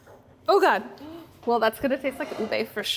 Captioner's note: gasps